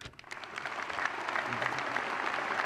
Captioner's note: applause